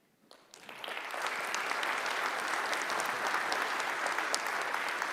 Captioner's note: audience applauding